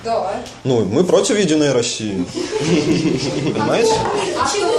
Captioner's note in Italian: risate